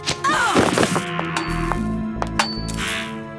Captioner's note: grunting